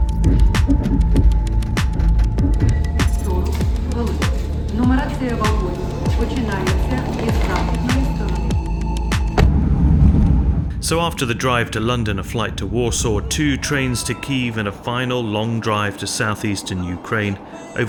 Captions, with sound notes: (train announcer speaking in foreign language) So after the drive to London, a flight to Warsaw, two trains to Kyiv, and a final long drive to Southeastern Ukraine,